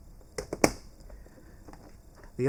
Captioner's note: snap